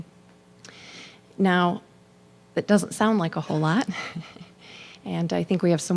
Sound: chuckling

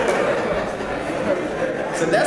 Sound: laugh

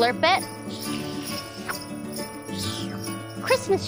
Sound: slurps

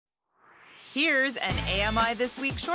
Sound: swoosh

